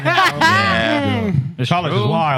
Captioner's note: laughter